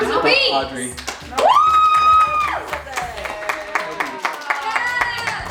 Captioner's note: crowd applauding